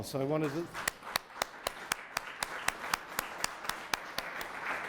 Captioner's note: applause